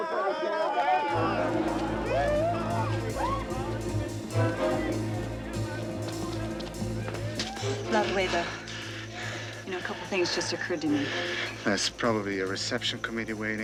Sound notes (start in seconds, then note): 7.5 Malarin panting